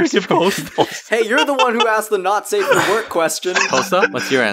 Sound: honk honk honk

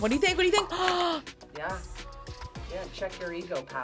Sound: gasps

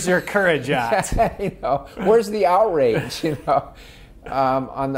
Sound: laughs; laughing

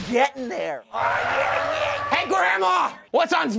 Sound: tires squealing

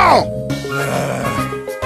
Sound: groans

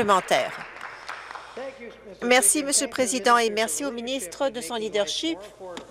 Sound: applause

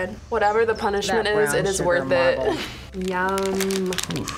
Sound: laughs

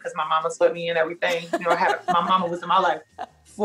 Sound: laughs

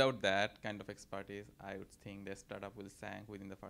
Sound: none

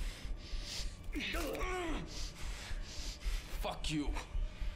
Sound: crunching

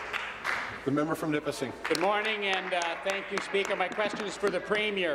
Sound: applause

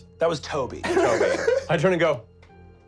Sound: laughing

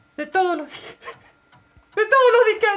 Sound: laughing

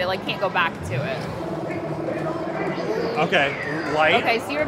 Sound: Jeep warbling

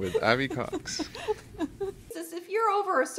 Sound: laughing

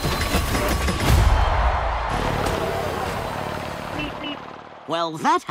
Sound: crowd cheering

